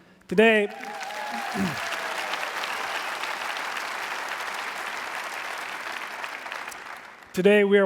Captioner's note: applause